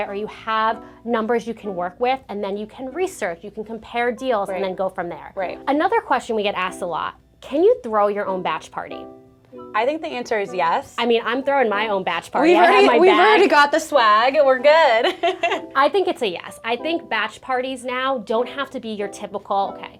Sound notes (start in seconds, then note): 15.0 laughs